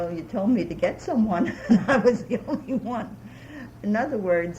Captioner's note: laughs